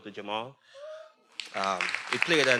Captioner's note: everyone applauding; attendees cheering